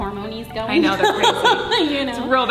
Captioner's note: laughing